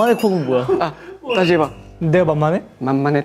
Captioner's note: bursting into laughter